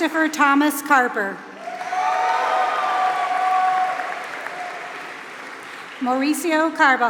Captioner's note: applause